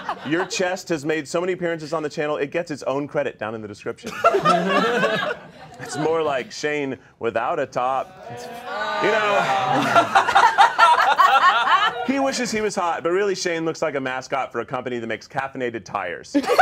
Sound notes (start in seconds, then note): 0.0 all laughing; 4.0 all laughing; 8.0 all groaning